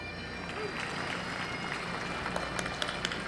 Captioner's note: applause